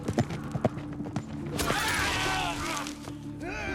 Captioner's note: yells